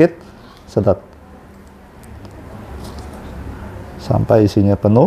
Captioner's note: sucking ink noise